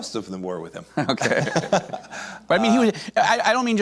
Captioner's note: laughs